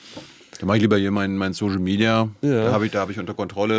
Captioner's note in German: schnauben